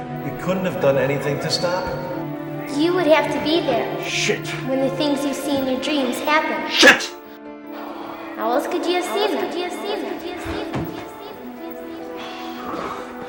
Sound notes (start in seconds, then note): 9.4 voice echoes; 10.2 dramatic music